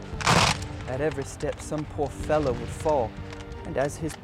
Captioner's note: voiceover